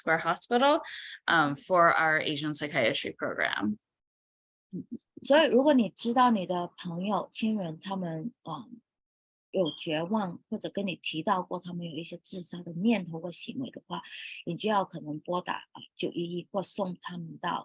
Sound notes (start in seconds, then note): 5.3 speaking chinese